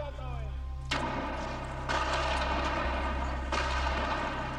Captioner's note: man shouts in foreign language; guns fire